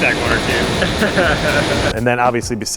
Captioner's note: laughs